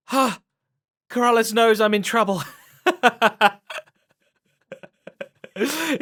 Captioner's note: laughs